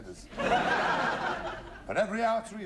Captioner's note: laughter